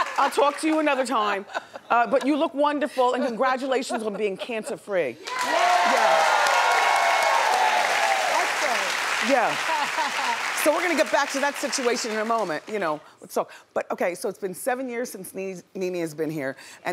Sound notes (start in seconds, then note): 5.2 audience cheers